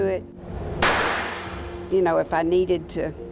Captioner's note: gun shot